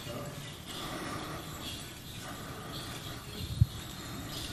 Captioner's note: beads clinking